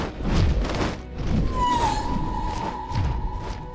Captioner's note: thestral wails